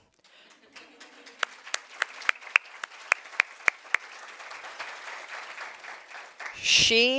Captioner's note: applause